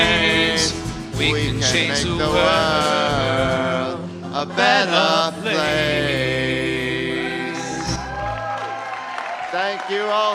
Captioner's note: applause